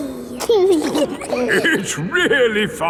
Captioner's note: giggling